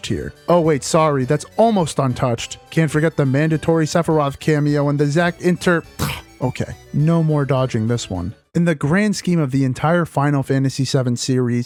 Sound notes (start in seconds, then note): 5.9 scoff